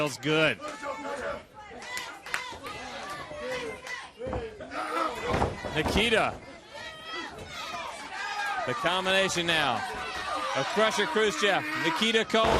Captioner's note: crowd chatter